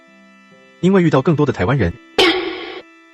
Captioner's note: laughs